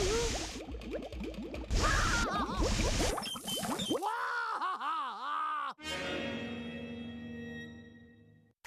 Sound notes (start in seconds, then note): 1.8 screaming; 4.1 laughing